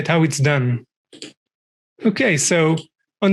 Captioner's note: mouse clicking